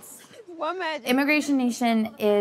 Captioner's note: laughs